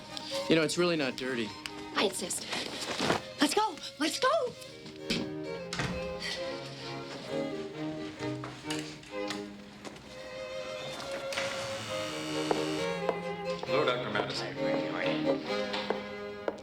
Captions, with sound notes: - You know, it's really not dirty. - I insist. Let's go, let's go. (buzzer buzzes) - Hello, Dr. Madison. - Hi Greg, how are ya?